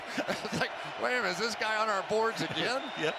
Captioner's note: laughter